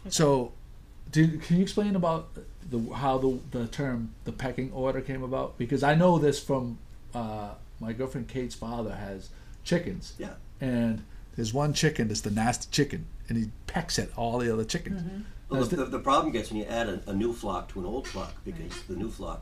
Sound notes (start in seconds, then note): 15.4 voiceover